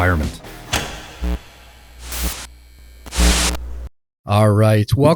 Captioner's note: electricity buzzing